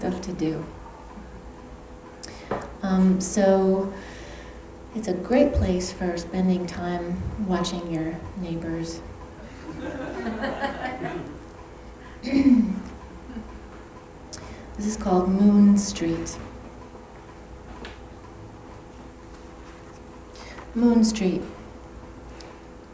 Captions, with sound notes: don't know you may be the only one. Um there's just not a ton of stuff to do. Um so it's a great place for spending time watching your neighbors (laughs) this is called Moon Street. Moon Street At night my neighbor comes out to cover his